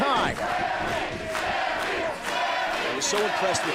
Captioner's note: crowd cheering